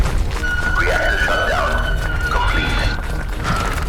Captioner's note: reactor shutdown